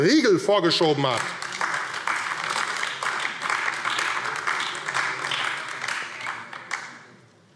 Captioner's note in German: Beifall AfD